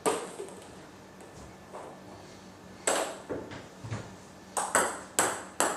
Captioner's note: balls ping pong hitting continues